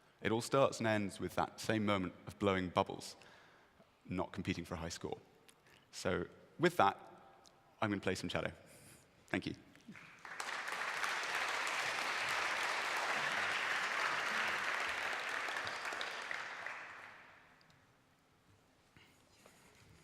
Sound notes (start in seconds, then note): 9.8 applause